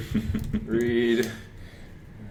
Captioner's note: laughs